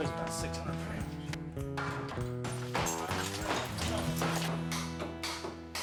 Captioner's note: crashing and hammering